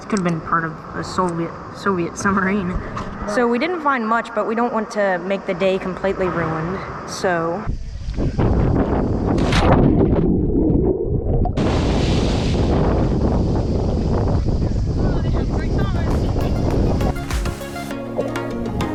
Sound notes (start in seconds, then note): 9.4 splashing water